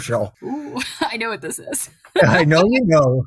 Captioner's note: laughing